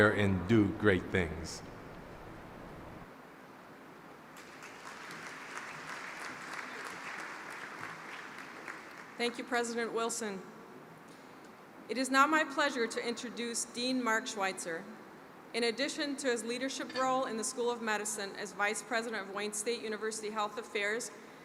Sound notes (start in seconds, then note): 4.3 applause